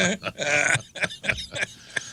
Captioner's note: laughing